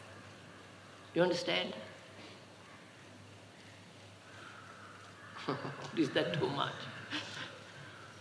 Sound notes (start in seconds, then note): 5.3 laughs